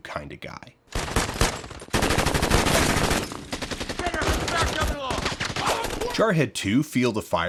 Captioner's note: rapid gunfire and indistict yelling